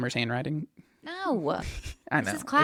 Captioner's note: laughs